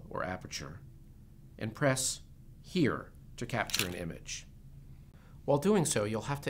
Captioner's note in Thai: เสียงกล้อง